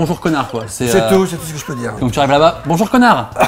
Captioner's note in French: rires